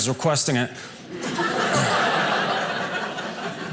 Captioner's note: audience laughing